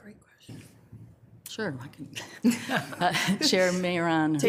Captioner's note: laughs